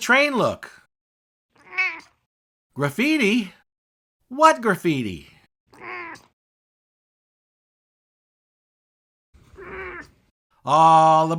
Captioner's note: meow!